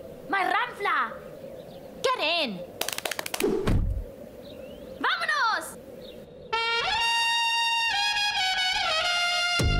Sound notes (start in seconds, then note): 5.1 speaks foreign language; 6.6 bright upbeat music